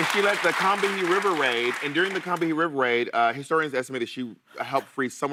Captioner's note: applause